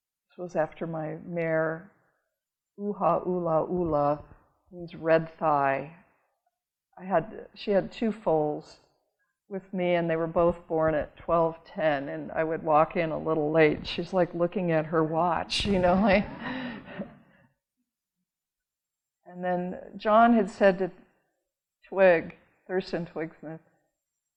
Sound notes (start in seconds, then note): 15.8 audience laughing